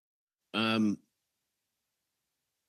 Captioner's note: speaking in French